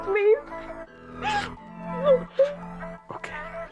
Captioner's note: Izzie cries